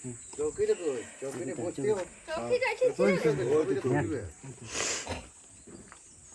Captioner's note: people chattering in foreign language